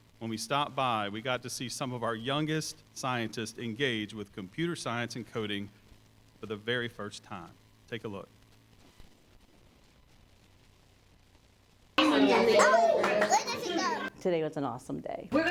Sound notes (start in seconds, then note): 12.0 classroom chatter